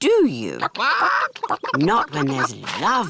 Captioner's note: chickens chatter